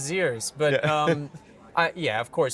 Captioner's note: laughing